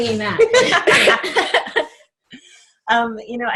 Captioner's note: laughter